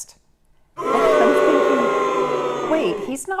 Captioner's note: booing